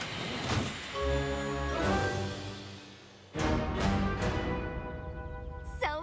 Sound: steam whooshes; dramatic music plays

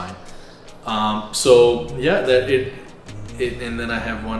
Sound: stammers

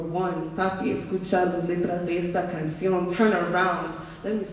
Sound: speaking in foreign language

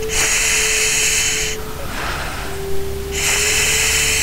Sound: breathing loudly

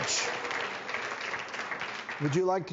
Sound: audience claps

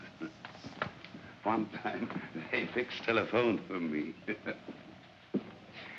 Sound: chuckles; chuckles

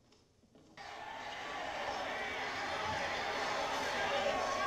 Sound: crowd cheering

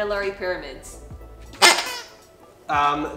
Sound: squeaks

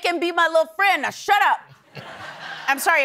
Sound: laughter

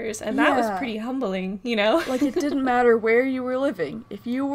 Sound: laughs

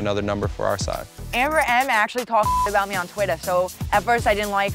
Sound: beep

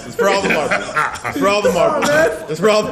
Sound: laugh

